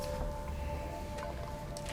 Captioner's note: equipment rattling